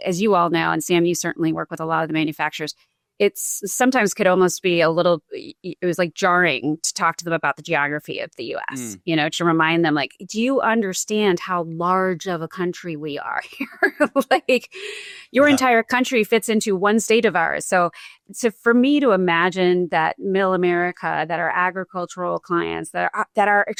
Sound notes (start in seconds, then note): 15.4 chuckles